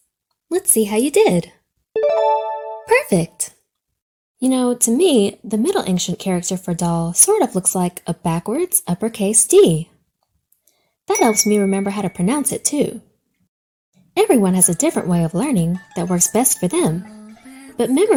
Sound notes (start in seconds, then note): 2.0 check mark dings; 11.2 light bulb dings